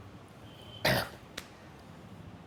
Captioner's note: clears throat